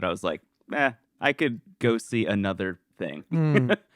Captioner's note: laughs